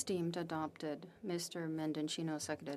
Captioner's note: speaking FRENCH